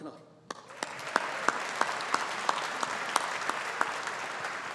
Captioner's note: audience applauding